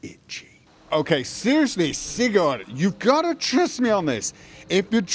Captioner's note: hushed; slurred